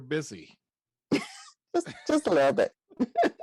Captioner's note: laughs